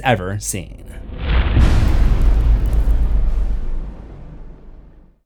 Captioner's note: impact